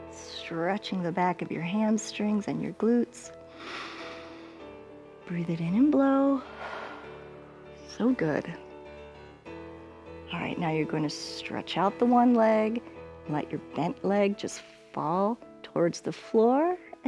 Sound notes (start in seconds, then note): 3.8 inhales; 6.4 exhales